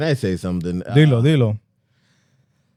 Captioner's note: speaking Spanish